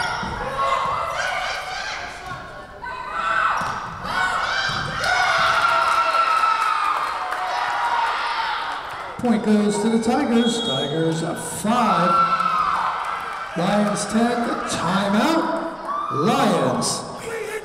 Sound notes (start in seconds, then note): 5.6 Tigers cheering; 13.6 whistle blowing